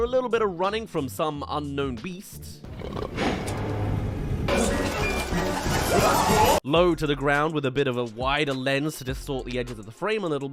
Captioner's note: running